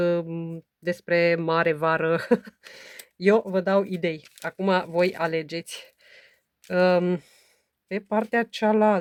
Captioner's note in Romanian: râsete